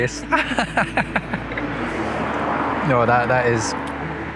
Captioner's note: laughing